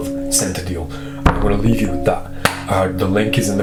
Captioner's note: hand clap